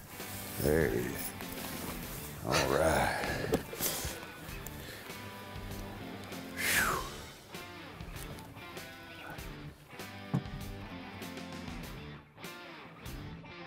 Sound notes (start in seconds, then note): 3.7 rock music; 6.6 exhaling